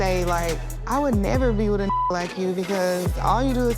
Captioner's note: beep